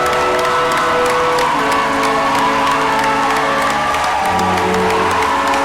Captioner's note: crowd cheering and applauding